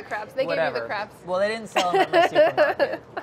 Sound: laughing

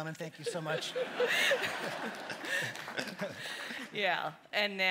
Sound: audience laughs

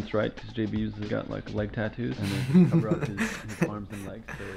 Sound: laughs

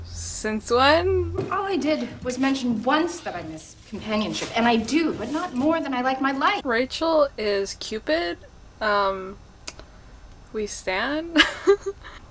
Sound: laughs

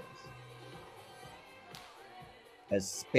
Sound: performer claps

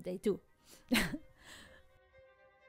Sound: giggle

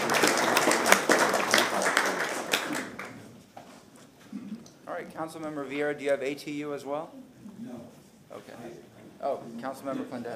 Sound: applause

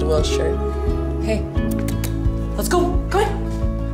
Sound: tongue clicks

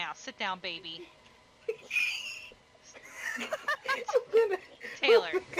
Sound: everyone is laughing SO hard

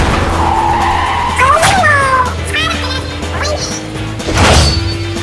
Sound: moar Inkling gibberish

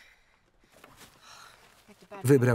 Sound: sighs

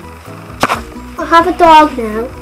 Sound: smacks the camera

